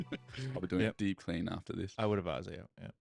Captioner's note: laughing